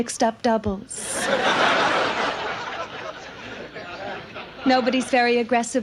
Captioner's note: audience laughs